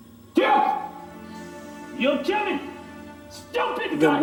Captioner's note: speaking in foreign language